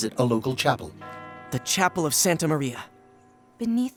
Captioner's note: bell tolling